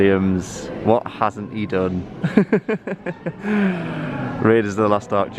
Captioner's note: laughs